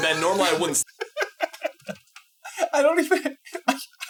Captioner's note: laughing